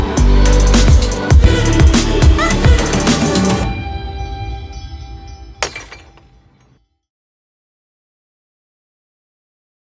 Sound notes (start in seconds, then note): 4.3 bells chiming; 5.6 ceramic breaking